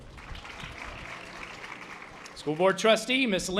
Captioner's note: audience applause